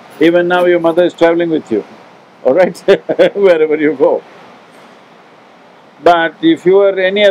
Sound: laughs

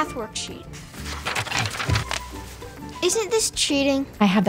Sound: paper rustling

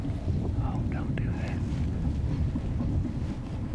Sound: whispering

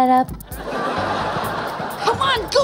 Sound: laughing

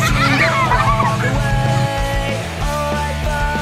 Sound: kids laughing

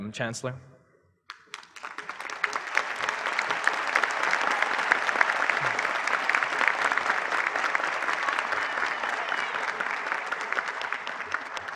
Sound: applause

